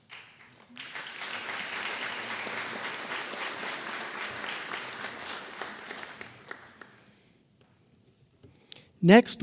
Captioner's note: applause